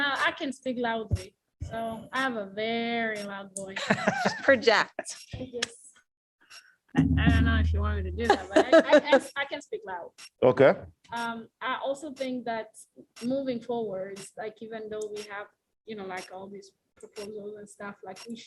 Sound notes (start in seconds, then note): 3.7 laughter